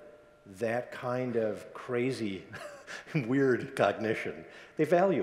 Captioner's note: chuckles